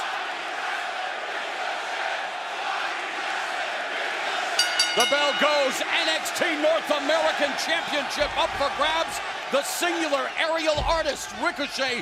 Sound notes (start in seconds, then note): 0.3 fans chanting; 4.6 bell ringing